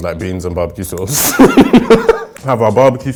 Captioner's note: laughing